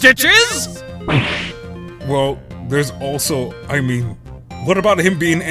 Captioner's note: gulp!